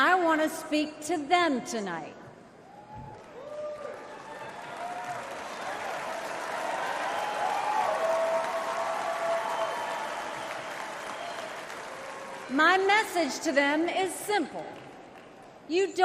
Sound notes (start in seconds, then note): 5.1 crowd cheers